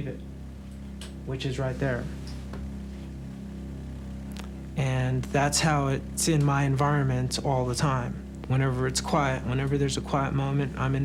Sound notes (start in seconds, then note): 2.5 low humming